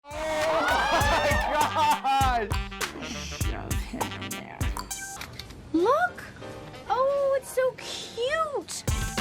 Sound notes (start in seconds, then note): 0.1 people laughing and yelling; 0.1 upbeat music